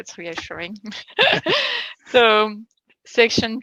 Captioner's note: laughing